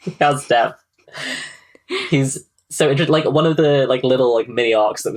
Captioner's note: laughs